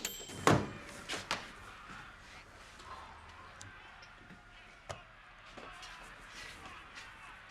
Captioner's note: microwave dings; crowd cheering; TV chattering